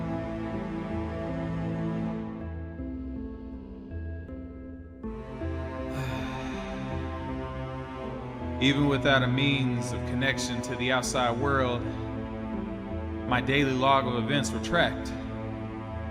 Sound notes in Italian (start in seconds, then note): 5.9 sospiro